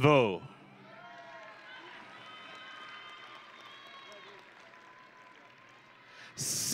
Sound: audience and graduates cheering

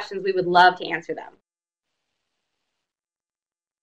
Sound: silence

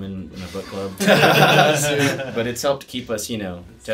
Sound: all laughing

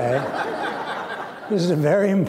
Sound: laughter

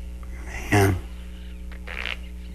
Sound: mutter

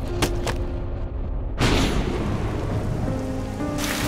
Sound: thunder roars

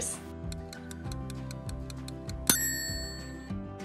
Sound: timer ticking; timer dings

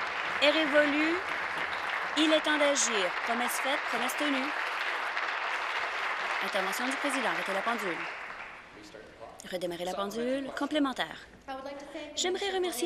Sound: applause

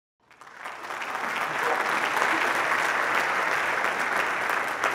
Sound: audience applause

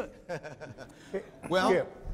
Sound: chuckles

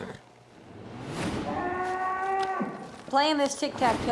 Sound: cow moos loudly

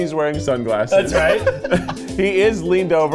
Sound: laughing

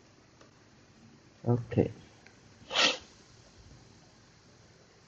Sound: snort sound when stuffy

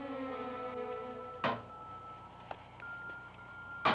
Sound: knocking

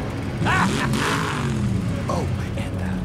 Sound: laughing

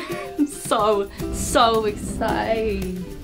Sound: giggle; door rumbles; music stops

